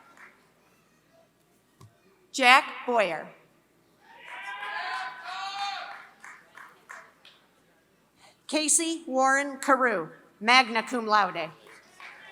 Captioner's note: applause